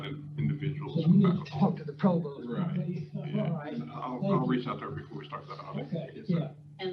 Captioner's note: speaker off microphone